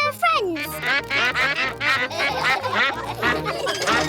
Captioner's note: quacks; all quack; laughter